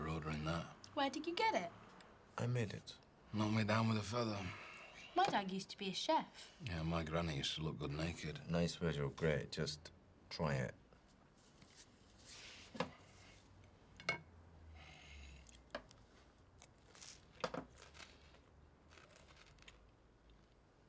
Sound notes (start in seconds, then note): 16.4 food crunching